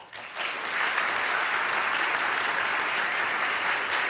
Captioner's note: audience clapping